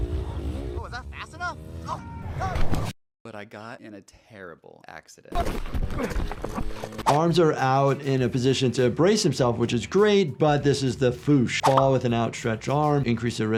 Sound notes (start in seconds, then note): 1.8 screams; 5.6 bike rumbling; 5.9 grunting